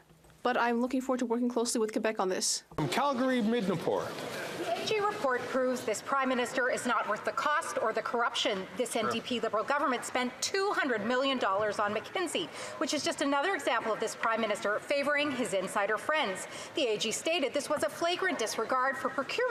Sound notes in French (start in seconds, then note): 7.7 voix de l'interprète